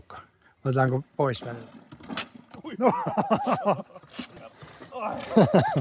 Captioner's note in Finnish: naurua